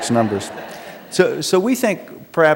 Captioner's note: laughter